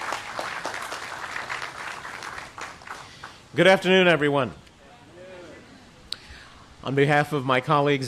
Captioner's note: applause